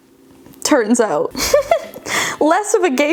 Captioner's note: giggling